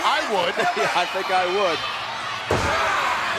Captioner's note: laugh